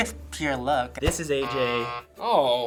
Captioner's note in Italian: buzzer